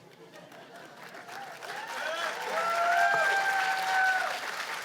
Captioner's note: cheers and applause